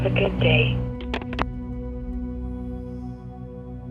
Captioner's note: call ends